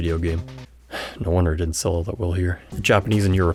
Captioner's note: sigh